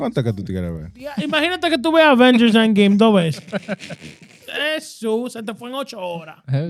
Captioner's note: speaking In Foreign Language